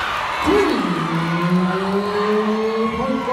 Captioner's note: cheering